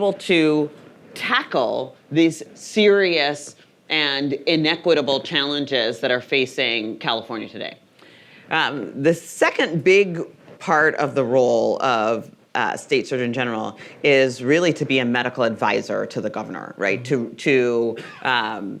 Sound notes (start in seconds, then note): none